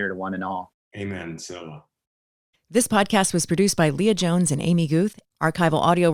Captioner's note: voiceover